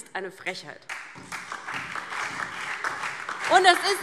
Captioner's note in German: Beifall DIE LINKE, vereinzelt BÜNDNIS 90/DIE GRÜNEN und SPD